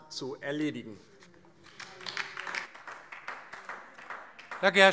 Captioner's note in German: Beifall DIE LINKE